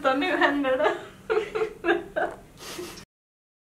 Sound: starts laughing

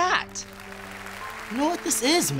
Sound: canned applause

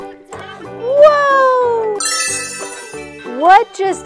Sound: magical chime

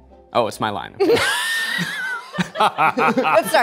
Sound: all laughing

